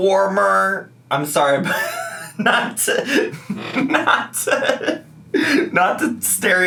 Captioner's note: laughs